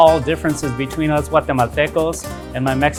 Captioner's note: speaking foreign language